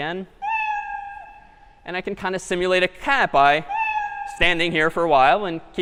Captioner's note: meow; meow